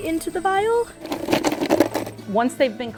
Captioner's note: digging in cooler